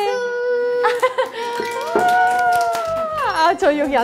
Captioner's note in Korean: 박수 짝짝